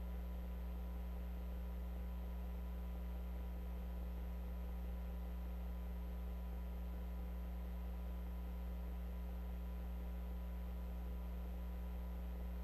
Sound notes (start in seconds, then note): none